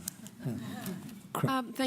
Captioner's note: laughter